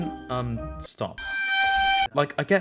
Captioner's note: kitchen nightmares screech